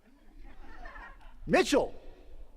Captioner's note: attendees laughing